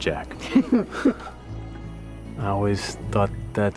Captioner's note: chuckles